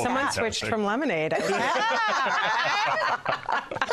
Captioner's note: laughter